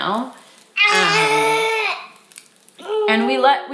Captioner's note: vocalizing